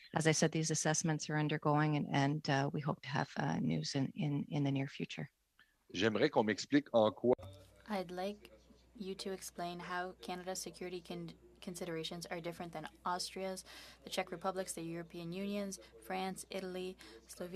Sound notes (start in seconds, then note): 9.9 speaking French